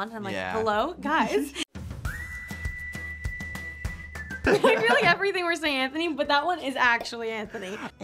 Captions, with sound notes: and I'm like, "Hello, guys?" - Yeah. (upbeat music) - I feel like everything we're saying Anthony-- (Anthony laughing) - But that one is actually Anthony.